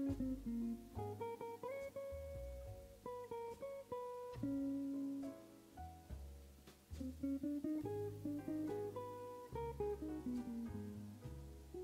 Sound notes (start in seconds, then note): none